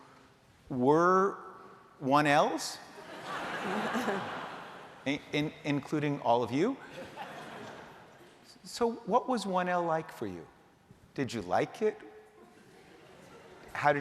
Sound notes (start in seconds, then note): 3.0 laughter